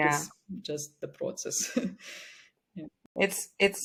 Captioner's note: chuckles